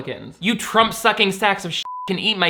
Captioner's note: beep